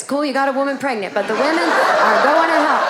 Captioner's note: audience laughing